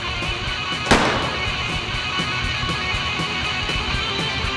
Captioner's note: gun firing